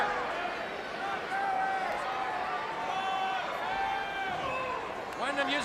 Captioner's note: crowd chatter